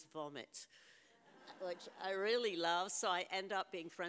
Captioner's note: audience laughs